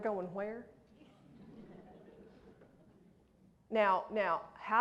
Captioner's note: laughter